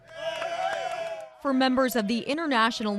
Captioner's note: all cheering